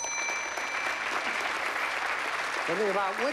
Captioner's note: applause